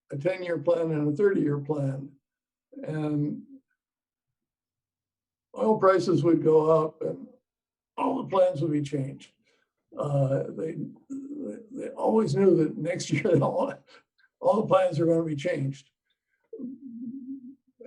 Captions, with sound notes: a 10-year plan, and a 30-year plan, and oil prices would go up, and all the plans would be changed. They always knew that next year, (laughs) all the plans were gonna be changed.